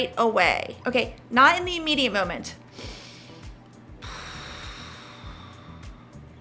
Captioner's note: breathes deeply